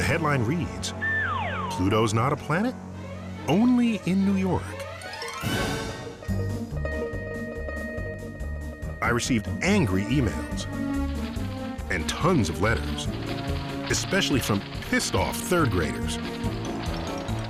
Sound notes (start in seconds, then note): none